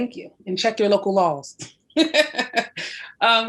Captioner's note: laughs